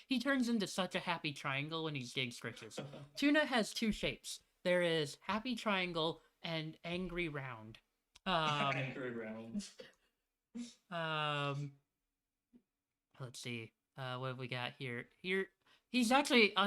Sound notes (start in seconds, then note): 2.8 chuckles; 8.6 laughs